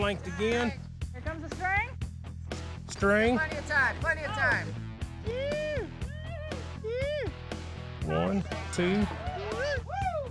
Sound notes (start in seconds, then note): 5.9 cheering